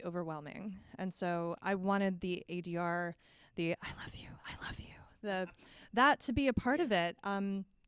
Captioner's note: whispering